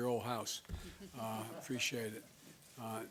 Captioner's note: laughter